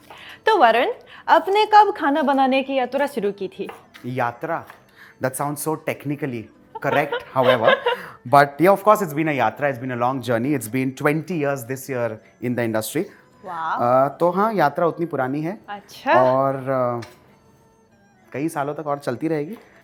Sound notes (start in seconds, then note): 6.8 chuckles